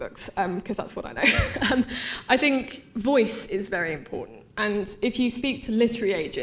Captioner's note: laughing